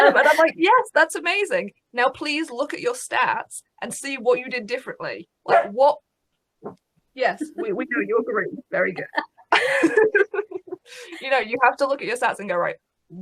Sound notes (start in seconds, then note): 5.4 woof; 8.8 laughing